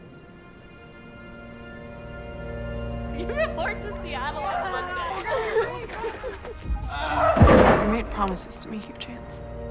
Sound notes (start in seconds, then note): 6.8 kids celebrate; 6.9 hugh cries out; 7.2 loud crash